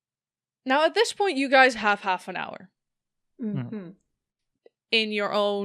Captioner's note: mumbles of agreement